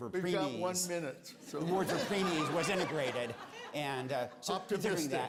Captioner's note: laughter